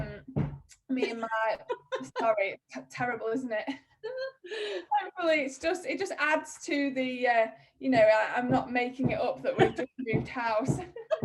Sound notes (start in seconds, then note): 1.6 laughs